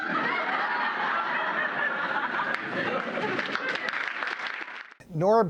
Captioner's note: laughter and applause